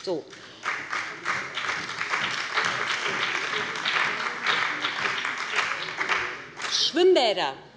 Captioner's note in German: Beifall bei dem BÜNDNIS 90/DIE GRÜNEN und der CDU